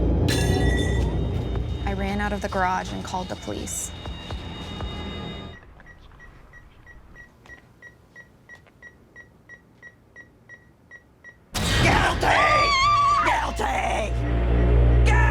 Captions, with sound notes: "I ran out of the garage and called the police." [beeping] Guilty! Guilty!